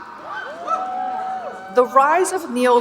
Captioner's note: audience cheering and booing